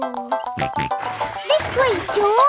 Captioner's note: george snorts